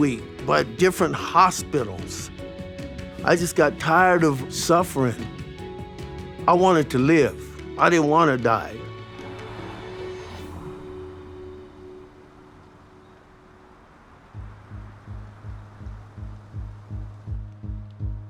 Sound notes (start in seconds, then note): 10.7 traffic Noise